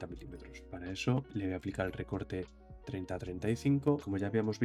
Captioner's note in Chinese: 英语